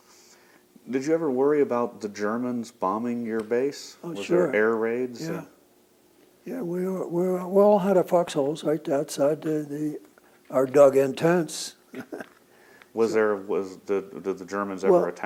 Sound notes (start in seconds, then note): 11.9 laughs